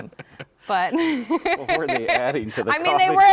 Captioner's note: chuckling